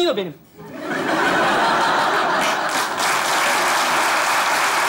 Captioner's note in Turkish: Kahkaha ve alkış sesleri